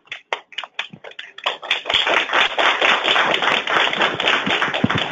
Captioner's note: many applauding